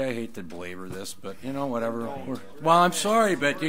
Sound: overlapping chattering

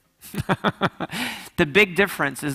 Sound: laughs

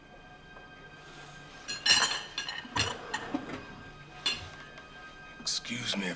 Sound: silverware clatters

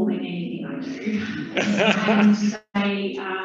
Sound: laughing

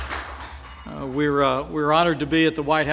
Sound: applause

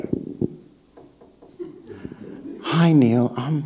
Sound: hand knocking

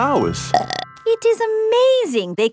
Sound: burps

